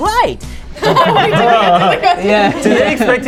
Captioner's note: group laughs